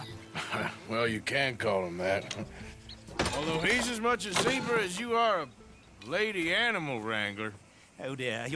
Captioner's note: laughs